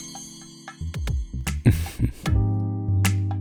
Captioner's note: chuckles